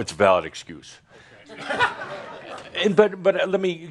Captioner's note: chuckling